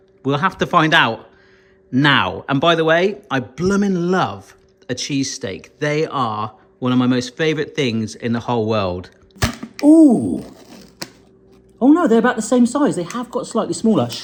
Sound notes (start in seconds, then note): 9.4 top popping